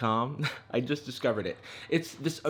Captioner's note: chuckling